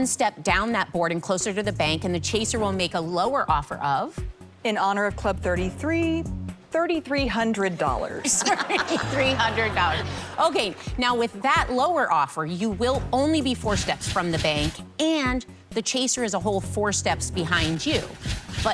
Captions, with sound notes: Take one step down that board and closer to the bank, and the Chaser will make a lower offer of... $3,300. In honor of Club 33, [ Laughs ] $3,300. with that lower offer, Okay, now, four steps from the bank, you will only be and the Chaser is a whole four steps behind you.